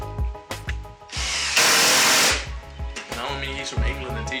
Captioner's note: drill whirring